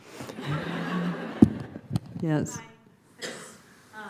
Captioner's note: laughter